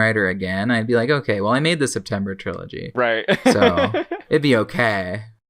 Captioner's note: laughs